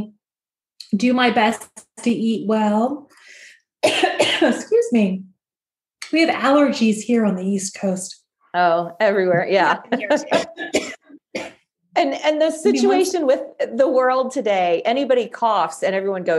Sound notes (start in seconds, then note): 3.8 coughs